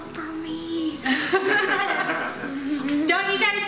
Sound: laughter

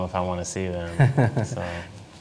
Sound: laugh

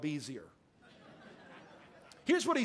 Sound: congregation laughing

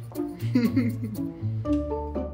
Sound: laughing; comical music

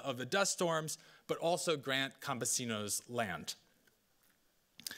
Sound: speaking Spanish

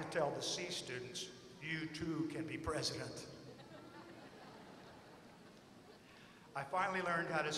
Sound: laughter

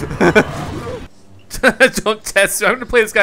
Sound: chuckles; laughs

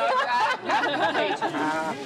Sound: all laughing

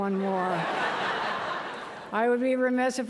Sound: laughter

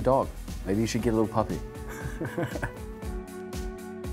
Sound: laughing

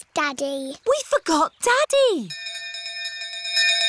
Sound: bell continues dinging

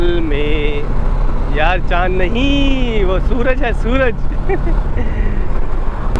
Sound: laughs

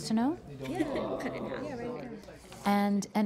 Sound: crowd chatting

